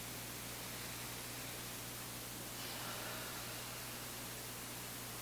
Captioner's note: both deeply breathing